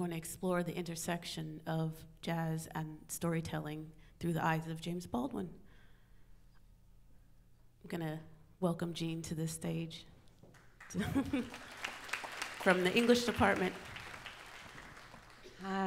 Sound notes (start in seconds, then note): 10.5 audience applauds